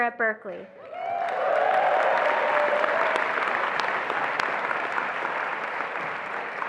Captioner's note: attendees applauding and cheering